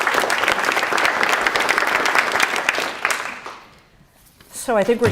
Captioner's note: applause